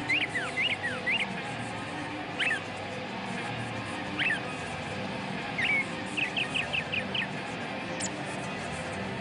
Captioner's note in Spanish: Trinar de pájaros